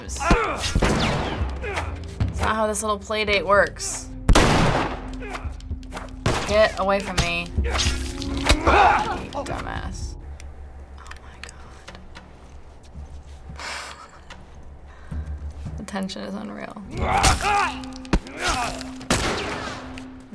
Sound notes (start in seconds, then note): 0.1 Joel grunts fiercely; 0.6 gunshot; 4.3 gunshot; 5.2 Joel grunts; 8.5 assailant moans; 10.7 whispering; 13.8 soft chuckle; 16.8 assailant moans; 18.2 Joel grunts fiercely; 19.1 gunshot